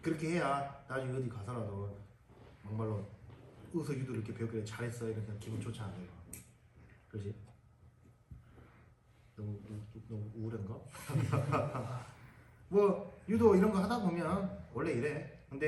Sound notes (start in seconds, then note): 11.0 everyone laughs